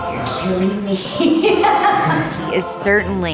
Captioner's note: laughs